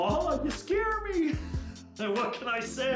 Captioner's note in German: lacht